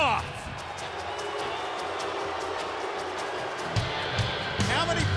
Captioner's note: audience boos